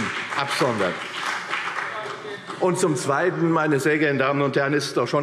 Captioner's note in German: Beifall CDU und BÜNDNIS 90/DIE GRÜNEN